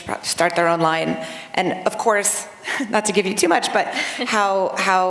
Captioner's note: laughter